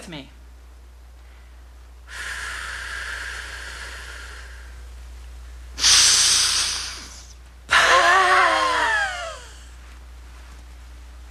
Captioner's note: breathing